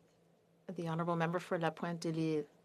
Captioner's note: speaking French